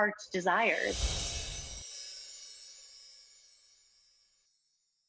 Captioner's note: bells twinkle